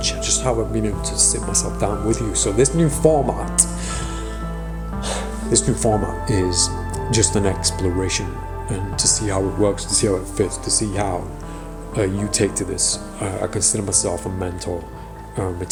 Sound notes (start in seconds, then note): 3.4 sighing